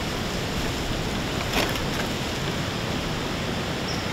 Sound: deer antlers rubbing on tree

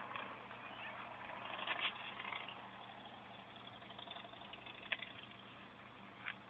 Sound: motorcycle going

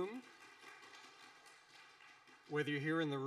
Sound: audience applauding

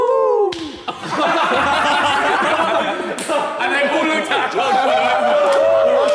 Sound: all laughing and shouting

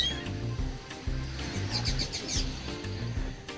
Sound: bird Song

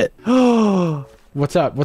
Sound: gasps

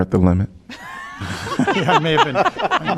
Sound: laughter

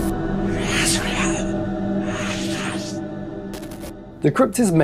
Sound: whispering

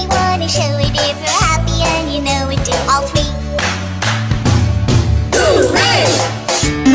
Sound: clap clap stomp stomp Hoo-Ray

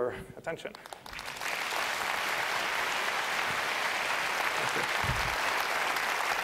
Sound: applause

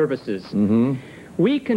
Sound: mm-hmm

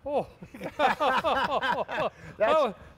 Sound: laughing

